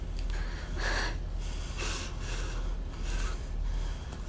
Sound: panting

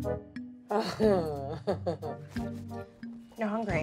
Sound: Jenni giggling

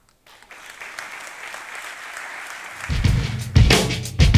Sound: audience clapping; upbeat music

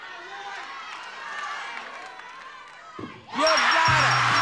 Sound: audience cheering; bell chiming

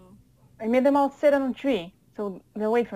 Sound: none

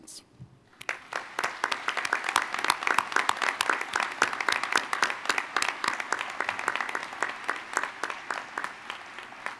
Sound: applause

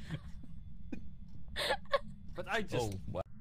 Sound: lots of laughing

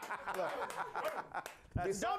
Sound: laughter

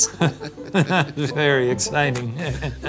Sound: laughing

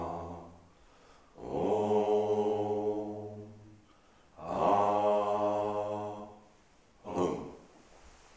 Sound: chanting in unison

